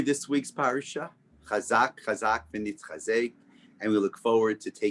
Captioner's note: Hebrew